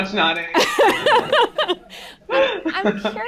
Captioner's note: laughter